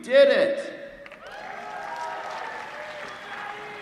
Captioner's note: applause